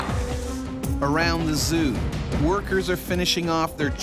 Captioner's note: voiceover